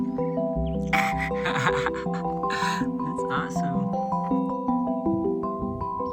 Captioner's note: laughter